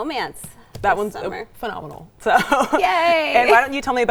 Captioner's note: chuckles